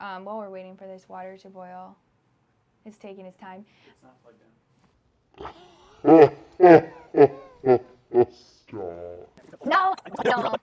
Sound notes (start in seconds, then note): 5.4 laughs